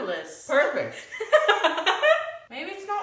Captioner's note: laughing